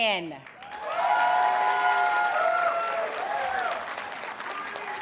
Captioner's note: audience cheers and applauds